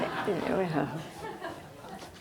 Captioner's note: laughing